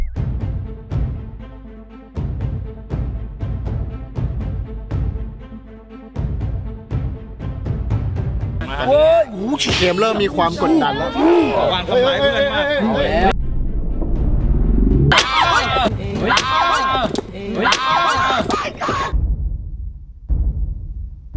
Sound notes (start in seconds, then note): 0.0 tense music playing; 8.8 shouts; 16.2 screams